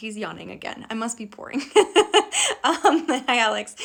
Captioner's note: laughing